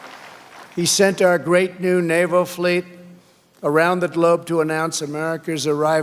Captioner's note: applause